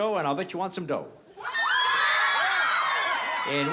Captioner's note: cheering